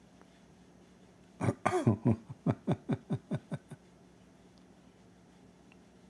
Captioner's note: Ketawa